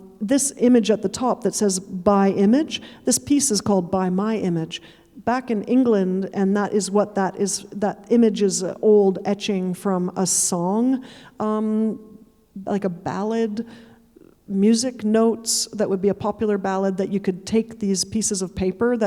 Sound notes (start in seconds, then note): none